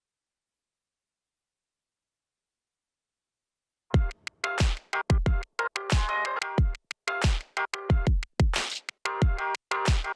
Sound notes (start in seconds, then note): none